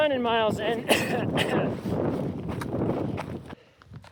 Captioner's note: coughing